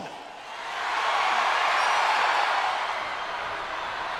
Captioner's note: crowd cheers